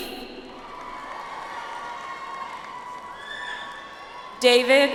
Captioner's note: audience applauds